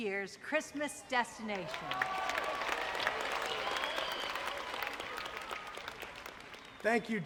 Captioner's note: audience applauding; audience cheering